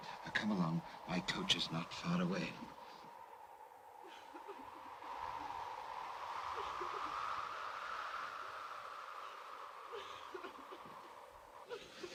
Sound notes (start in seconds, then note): 3.9 Mary cries; 3.9 wind blows